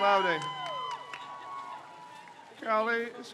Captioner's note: crowd cheers